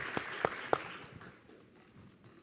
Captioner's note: applause